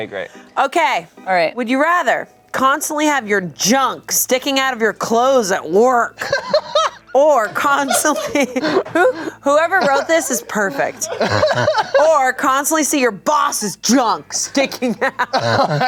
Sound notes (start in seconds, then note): 6.1 laughs